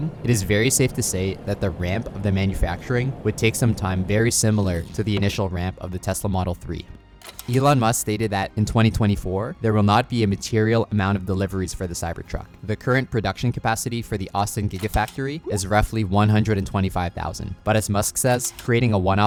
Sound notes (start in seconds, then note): 4.4 graphics shuffling; 7.6 graphics shuffling; 14.7 graphics popping; 14.7 graphics shuffling; 18.2 graphics shuffling